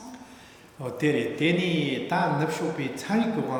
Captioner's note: speaking tibetan